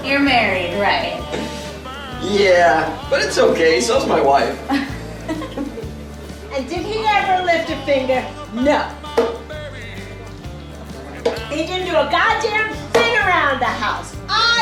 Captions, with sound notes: - You're married, right? - Yeah, but it's okay, so is my wife. (both laughing) - And did he ever lift a finger? No! He didn't do a goddamn thing around the house.